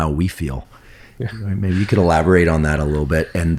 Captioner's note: chuckles